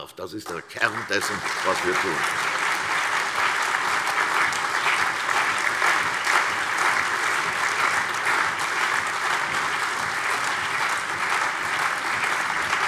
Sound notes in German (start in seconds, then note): 2.1 Lebhafter allgemeiner Beifall